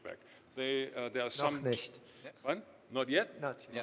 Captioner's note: murmurs